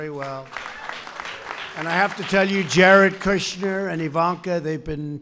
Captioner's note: applause